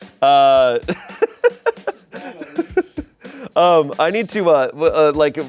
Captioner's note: laughs